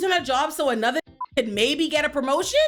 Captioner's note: beep